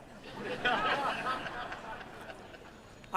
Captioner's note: laughter